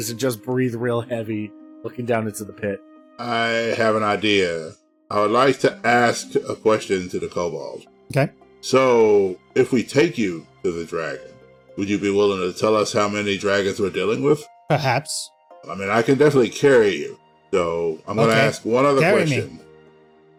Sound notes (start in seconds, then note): none